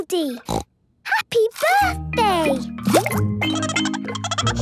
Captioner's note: snorting; Goldie giggling